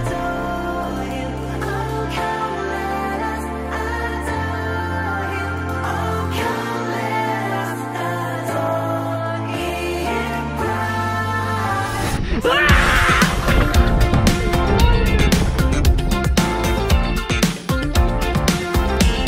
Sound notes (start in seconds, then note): 12.3 screaming